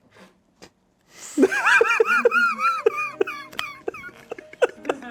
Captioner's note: everyone laughs